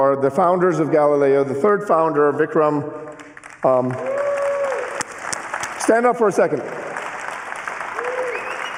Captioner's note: cheering and applause